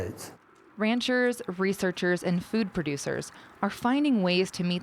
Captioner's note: voiceover